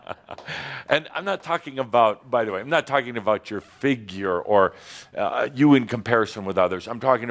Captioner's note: chuckles